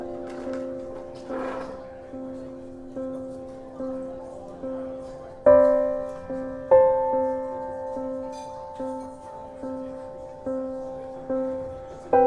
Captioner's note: chair scratches